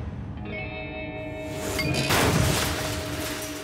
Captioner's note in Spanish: woosh, dink, crash